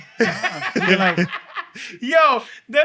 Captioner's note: laughing